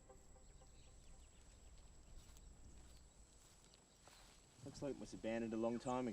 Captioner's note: cicadas chirping; birds chirping